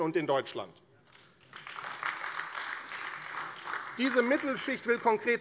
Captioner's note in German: Beifall AfD